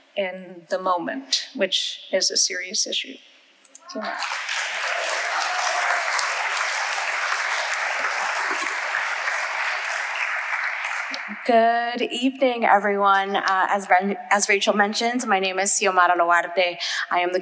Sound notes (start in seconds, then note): 3.9 audience applauding